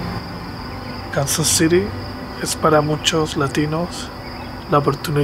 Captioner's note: narrator speaks Spanish